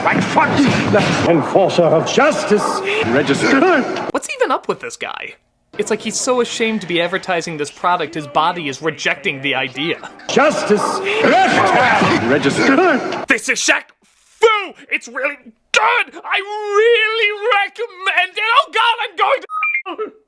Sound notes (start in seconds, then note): 2.7 coach gasps; 12.7 coach gasps again